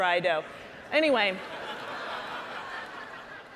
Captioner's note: audience laughing